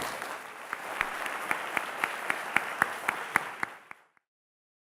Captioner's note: audience applause